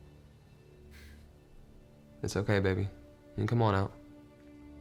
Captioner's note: sighs